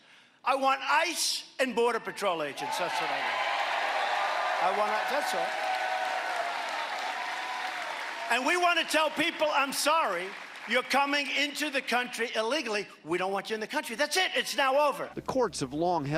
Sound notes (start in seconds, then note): 11.0 applause